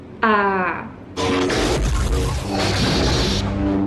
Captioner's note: lightsaber dual